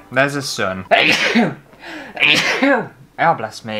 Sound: sneezing

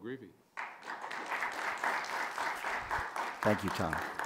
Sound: audience applauds

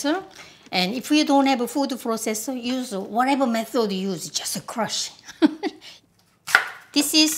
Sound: laugh

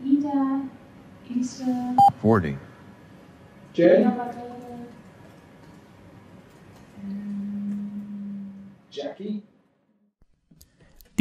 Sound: computerized voice "40"

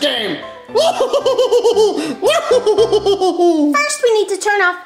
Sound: laughs

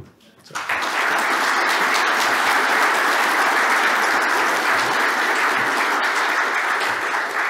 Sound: applause

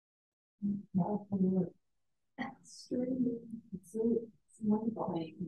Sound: woman mumbling

